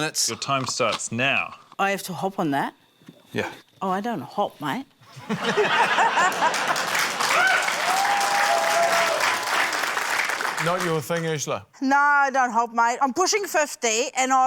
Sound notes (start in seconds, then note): 5.0 laughter; 6.1 cheering, applause